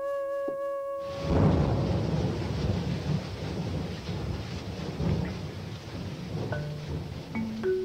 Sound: thunder and rain sound effects

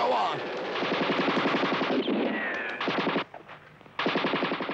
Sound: guns blasting

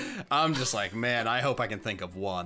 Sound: laughs

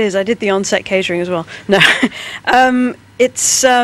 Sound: laughs

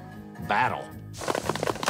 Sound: paintballs firing

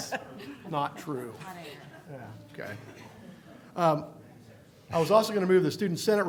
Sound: laughter

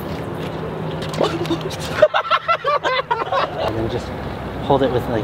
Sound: laughing

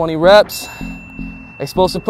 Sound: bell dings

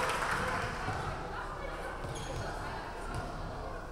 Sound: crowd cheering; crowd chattering

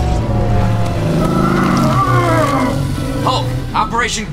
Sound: groans

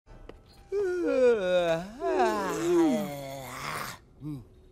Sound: yawning

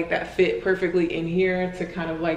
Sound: none

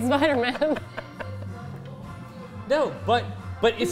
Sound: laughs

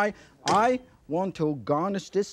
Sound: wok clinks

